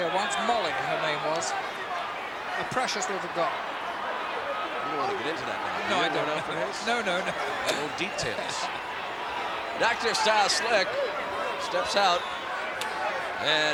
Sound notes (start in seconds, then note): 5.5 laugh